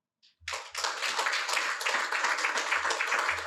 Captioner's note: applause